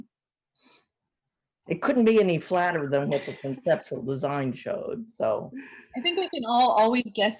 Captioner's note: laughter